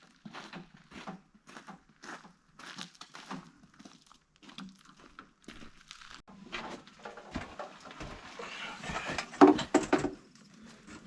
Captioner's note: metal scraping